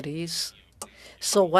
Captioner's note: speaking French